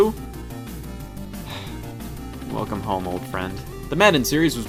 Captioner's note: sigh